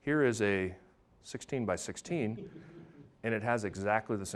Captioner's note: audience laughing